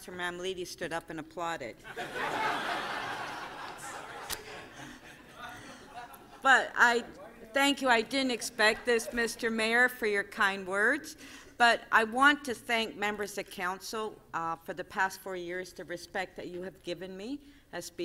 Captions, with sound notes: >> THANK YOU, MR. MAYOR, THANK YOU TO MEMBERS OF COUNCIL. I'M SURPRISED THAT COUNCIL MAMMOLITI STOOD UP AND APPLAUDED. >> [LAUGHTER] >> THANK YOU. I DIDN'T EXPECT THIS, MR. MAYOR, FOR YOUR KIND WORDS. I WANT TO THANK MEMBERS OF COUNCIL